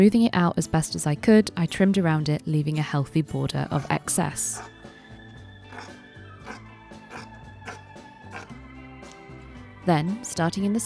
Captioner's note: scissors snipping